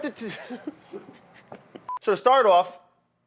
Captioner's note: laughs